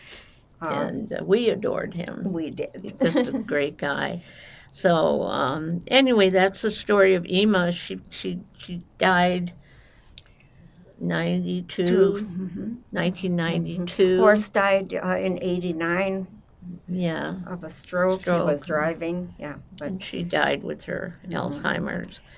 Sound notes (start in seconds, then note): 2.8 laughing